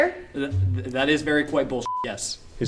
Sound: beep

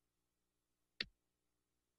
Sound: clicks

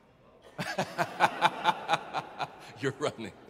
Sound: audience laughing

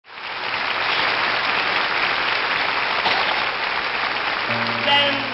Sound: audience applauding

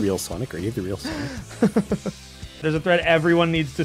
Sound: laughs

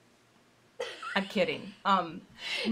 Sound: laughing

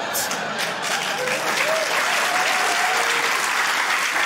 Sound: cheering, applause

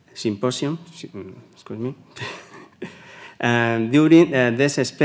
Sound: laughs

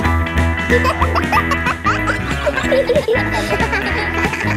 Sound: kids laughing; pop music playing

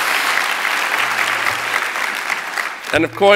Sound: applause

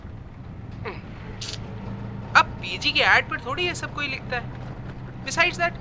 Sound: clicks tongue

